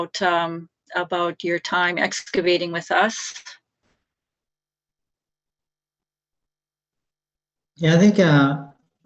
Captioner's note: silence